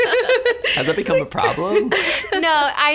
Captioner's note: laughter; laughs